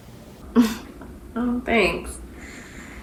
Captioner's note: giggles